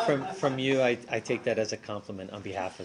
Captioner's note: laughter